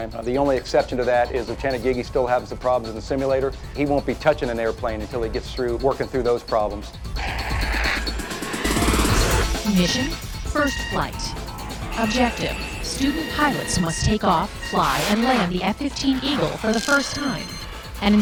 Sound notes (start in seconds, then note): 9.9 automated Voice